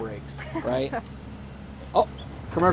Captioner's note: chuckling